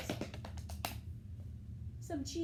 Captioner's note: clapping